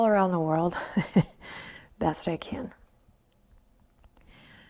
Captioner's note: chuckles